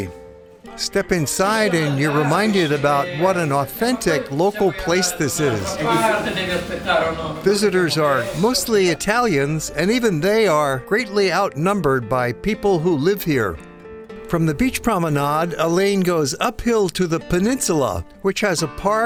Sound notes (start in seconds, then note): 5.7 background chatter